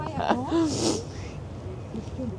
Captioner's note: laugh